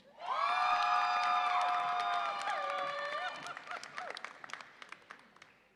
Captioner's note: audience applauds and cheers